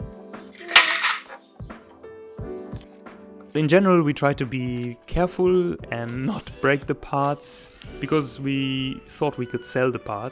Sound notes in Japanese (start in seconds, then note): 0.6 ガシャン